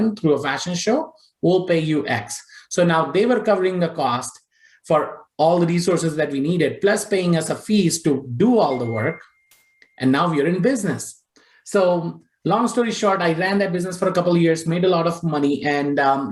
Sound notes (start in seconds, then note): none